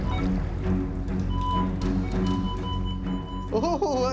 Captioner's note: music intensifies; detector beeping